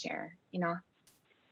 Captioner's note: non-english speech